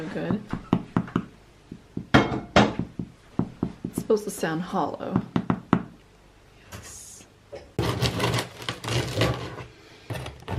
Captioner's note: knock